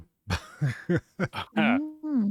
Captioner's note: laughs